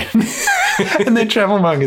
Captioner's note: both laugh